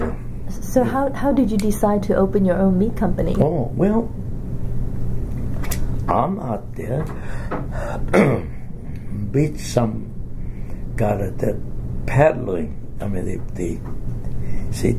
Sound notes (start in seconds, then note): 7.7 coughs